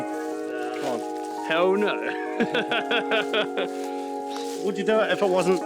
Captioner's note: laughing